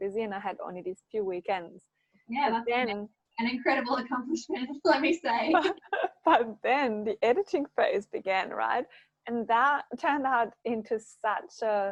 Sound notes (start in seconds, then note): 5.7 laughing